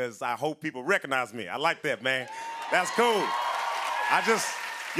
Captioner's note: cheering and applause